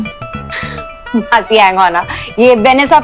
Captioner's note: Chuckles